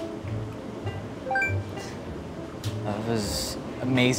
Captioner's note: notification beeps